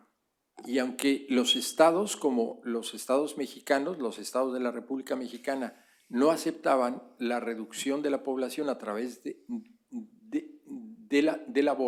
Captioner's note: speaking spanish